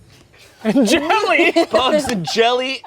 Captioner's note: laughs